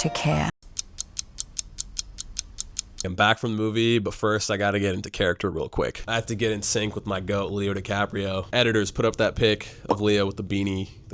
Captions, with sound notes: (clock ticking) I'm back from the movie, but first I gotta get into character real quick. I have to get in sync with my goat Leo DiCaprio. Editors put up that pic of Leo with the beanie,